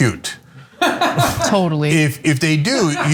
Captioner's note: laugh